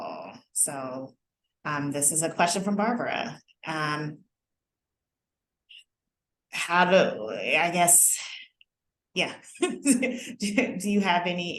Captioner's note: laughter